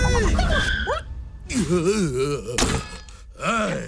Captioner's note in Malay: mengerang; mengeluh